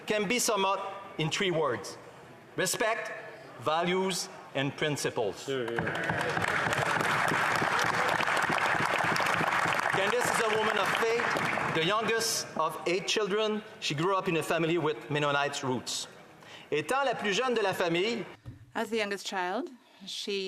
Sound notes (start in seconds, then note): 9.5 applause